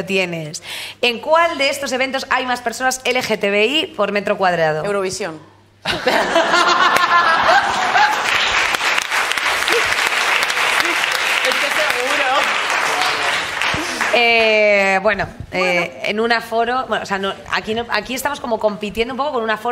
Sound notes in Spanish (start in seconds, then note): 5.8 todos ríen; 7.6 Aplausos